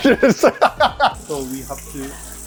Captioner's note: laughs